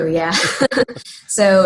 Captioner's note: laughing